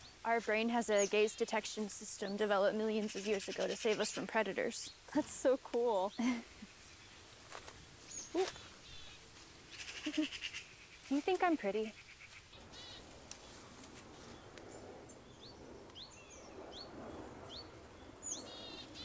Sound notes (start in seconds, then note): 7.1 leaves crunch; 7.5 birds chirp; 14.1 wind blows; 14.2 birds chirp